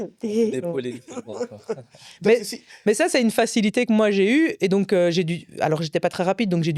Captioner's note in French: rires